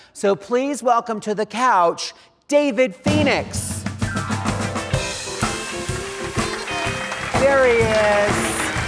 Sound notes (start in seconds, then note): 3.1 upbeat jazz music; 4.9 audience clapping